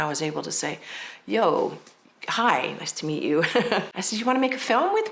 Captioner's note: laughs